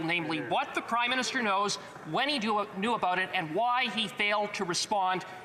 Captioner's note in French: voix de l'interprète